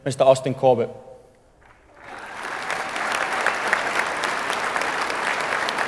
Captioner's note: audience applauding